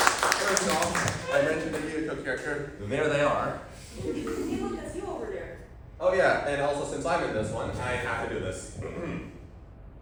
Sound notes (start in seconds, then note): 8.7 clears throat